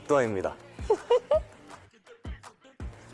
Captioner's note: haha